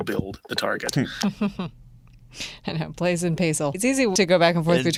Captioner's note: chuckling